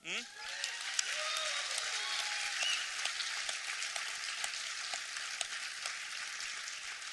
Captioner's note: applause